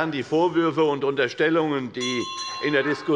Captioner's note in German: Unruhe - Glockenzeichen des Präsidenten